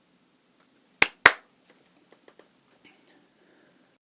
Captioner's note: clap